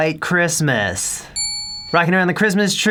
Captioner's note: ding